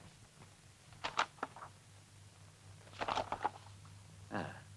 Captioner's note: paper rustles